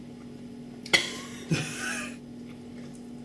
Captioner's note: coughs